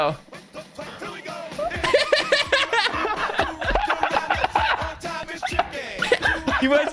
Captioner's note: all laughing